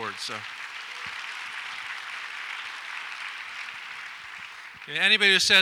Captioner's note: audience applauds